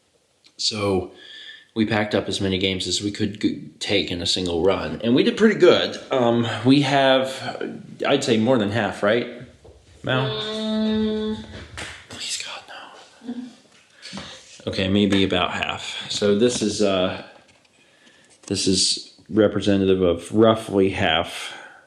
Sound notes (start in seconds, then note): 10.4 disapproving, judging noise; 11.7 whispering